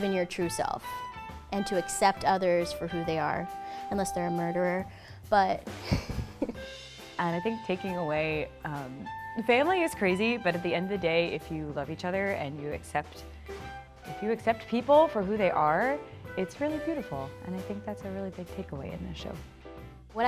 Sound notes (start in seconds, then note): 5.8 laughter